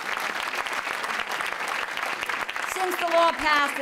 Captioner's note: applause